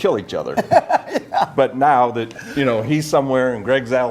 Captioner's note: laughs